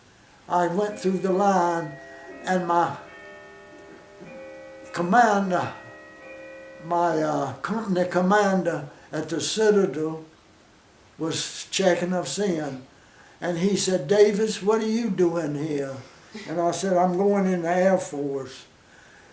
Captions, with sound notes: I went through the line... and my... [clock chiming] commander... my, uh, company commander at The Citadel... [pause] was... checking us in and he said, "Davis? What're you doin' here?" and I said, "I'm goin' in the Air Force."